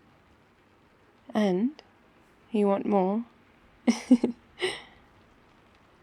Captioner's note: laughs